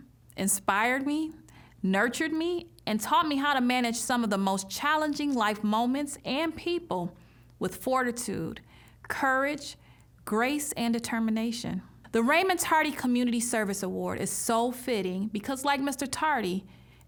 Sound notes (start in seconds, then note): none